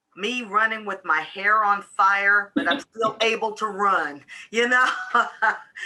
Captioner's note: laughs